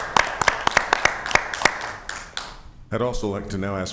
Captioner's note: ñAPPLAUSEñ